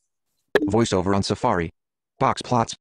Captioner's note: voiceover